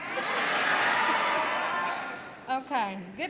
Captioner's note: cheering